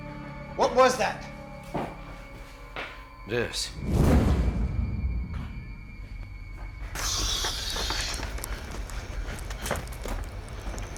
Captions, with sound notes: - What was that? - This. (flames whooshing) (fire crackling)